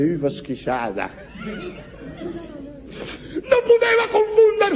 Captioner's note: laughs